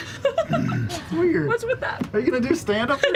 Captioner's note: laughs